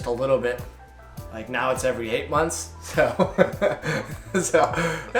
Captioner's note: both laugh